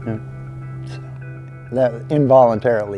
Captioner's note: chuckling